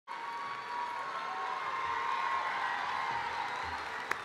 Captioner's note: cheering